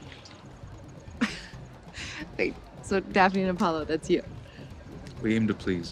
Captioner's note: laughs